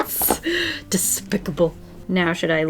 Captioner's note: gasps